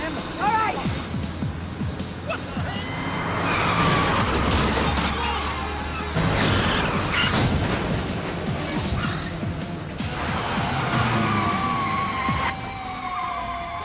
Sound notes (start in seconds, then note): 4.2 metal clangs; 10.5 tires screech